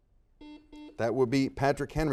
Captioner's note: buzzer dings